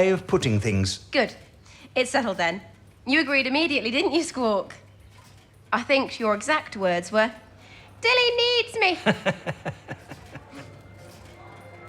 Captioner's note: he chortles